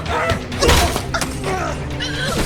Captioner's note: pained yell; violent cracking